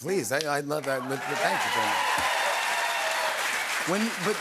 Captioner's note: cheers and applause